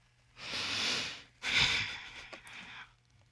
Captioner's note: sobs, sighs